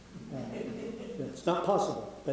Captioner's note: audience laughing